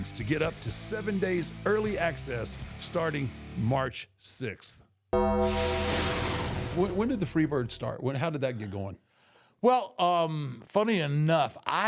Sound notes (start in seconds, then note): 5.2 logo whooshes; 5.3 bell clangs